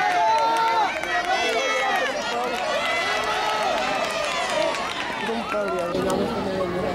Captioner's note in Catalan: La gent anima